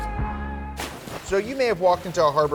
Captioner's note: water splashes